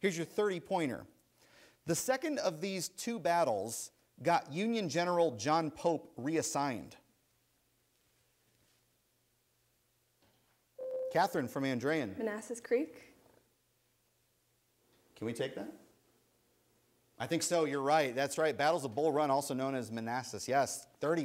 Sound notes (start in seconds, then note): 10.8 ding